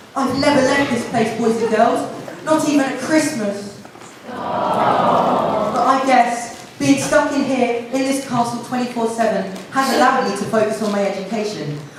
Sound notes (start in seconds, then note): 4.2 aww